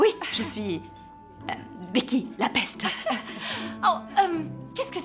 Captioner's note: laughing